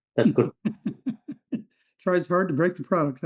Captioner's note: laughter